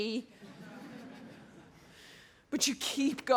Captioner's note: audience laughs